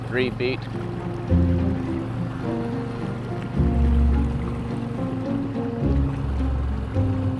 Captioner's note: boat engine droning; pensive music continues